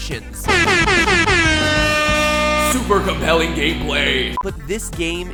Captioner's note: shots fired airhorn